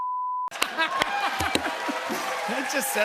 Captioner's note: cheers and applause